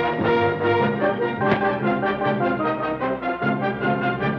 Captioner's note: thud